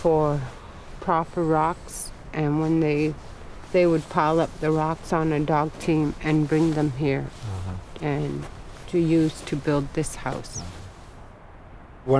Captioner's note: sound of wind